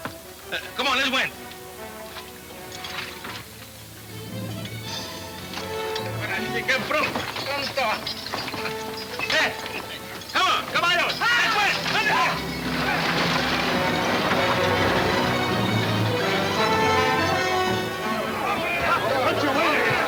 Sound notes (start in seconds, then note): 0.2 tense orchestra music; 4.9 speaking Spanish; 12.9 dramatic orchestra music; 16.3 men yelling simultaneously